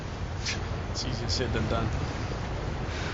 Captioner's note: scoffs